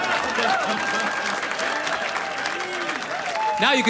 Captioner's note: audience laughs; audience applauds